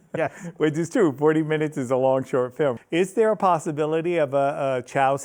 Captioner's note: laughs